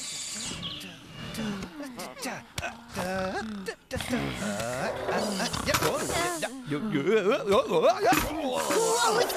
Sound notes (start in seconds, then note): 2.7 humming Salsa Tune; 5.8 clunk!; 8.7 thud!